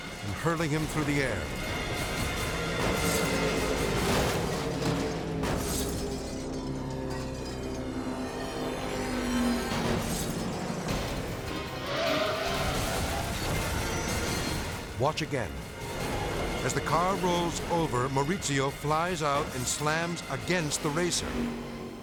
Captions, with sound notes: and hurling him through the air. (race car crashes) (tires squealing) (race car crashes) Watch again. As the car rolls over, Mauricio flies out and slams against the racer.